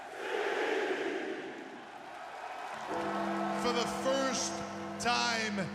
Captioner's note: crowd cheering